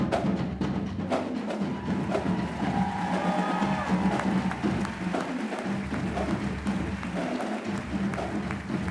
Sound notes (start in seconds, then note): 1.6 cheering; 1.9 applauding